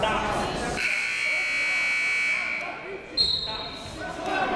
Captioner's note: buzzer; whistle